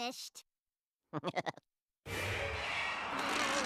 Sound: laughing nervously

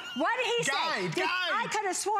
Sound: laughter

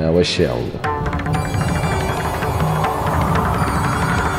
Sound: wind blowing

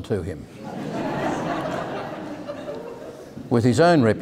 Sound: audience laughing

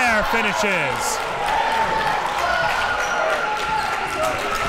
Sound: crowd cheering

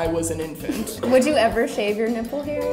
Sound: laughing

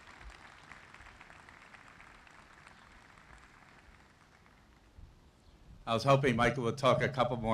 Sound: applause

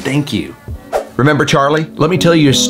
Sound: screen swooshes

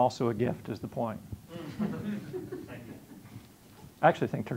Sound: audience laughing

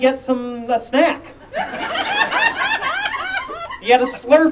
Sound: audience Laughing

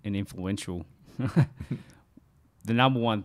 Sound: chuckling

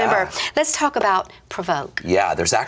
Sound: laughs

